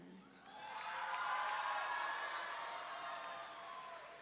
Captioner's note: audience cheering